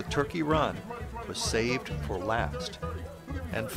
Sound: auction noises

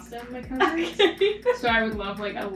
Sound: host laughing

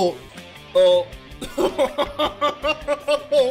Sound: laughter

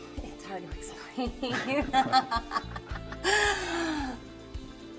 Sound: Maha laughing

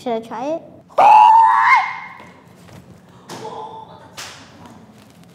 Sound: screams

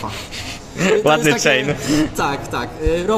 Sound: giggling

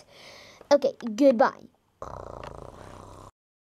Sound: snores

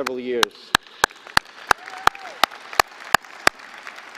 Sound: applause

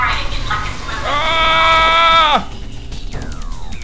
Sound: payback scream

